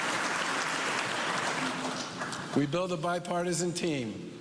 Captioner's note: cheers and applause